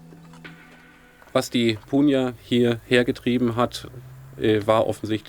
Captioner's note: speaking German